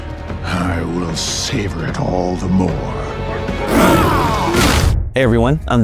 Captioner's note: roars; kick thuds